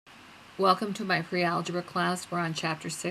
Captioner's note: voiceover